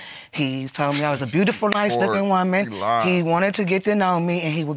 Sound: scoffs

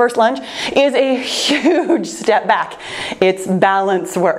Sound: laughs

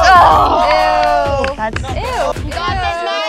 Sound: everyone exclaiming

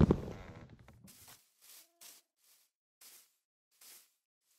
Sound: grass rustling

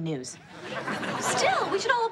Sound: audience laughs

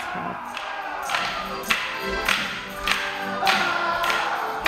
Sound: men hollering; sticks clacking; lively music

